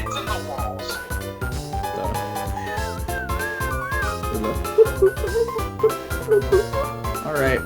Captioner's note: whistles; bilabial trill